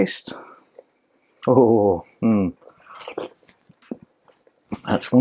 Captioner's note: ecstatic chef noises and slurping